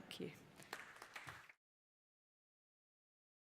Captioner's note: applause